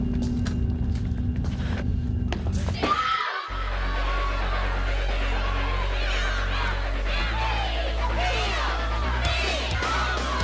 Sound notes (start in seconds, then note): 2.8 loud scream; 2.8 loud cheering